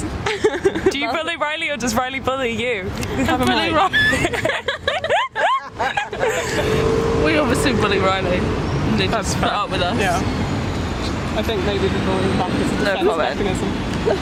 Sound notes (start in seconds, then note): 3.7 all laugh